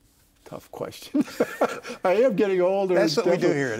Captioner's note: laughing